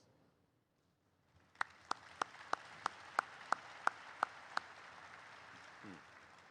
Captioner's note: audience applauds